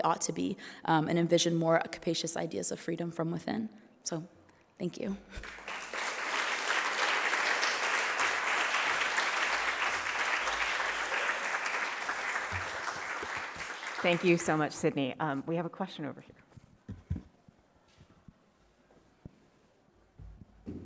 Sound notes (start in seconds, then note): 5.4 applause